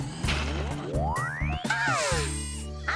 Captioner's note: whirring